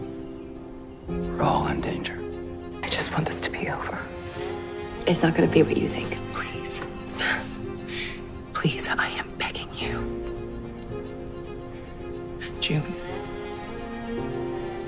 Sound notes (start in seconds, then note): 3.0 voiceover